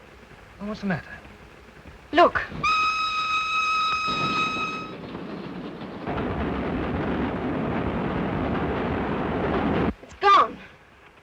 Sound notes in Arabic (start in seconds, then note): 2.6 صافرة القطار; 5.0 هدير القطار